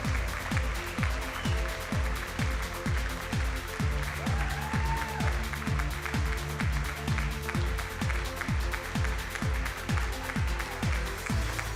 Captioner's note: audience screaming and applauding